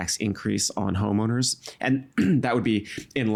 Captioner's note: clearing throat